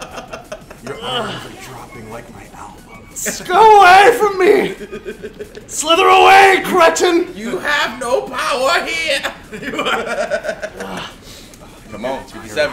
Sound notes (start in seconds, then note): 0.0 laugh